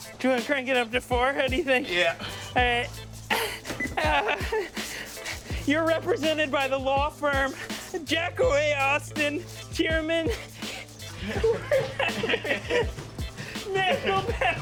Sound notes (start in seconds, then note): 6.2 beeps; 12.4 laughs